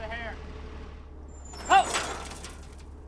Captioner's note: metal clanging